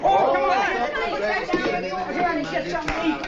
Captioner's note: crowd chattering